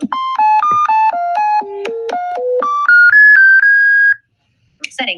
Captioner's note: varied beeping tones